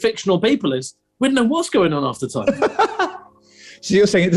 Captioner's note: laughing